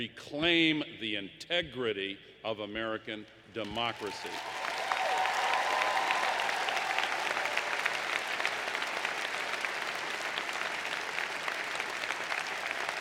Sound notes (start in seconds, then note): 9.2 applause